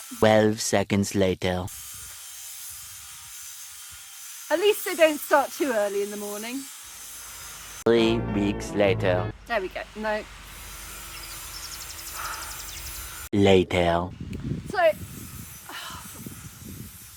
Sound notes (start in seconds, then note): 1.8 loud grinding continues; 9.5 grinding; 9.8 loud grinding; 15.0 grinding; 15.7 deep sigh